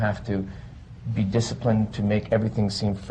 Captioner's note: none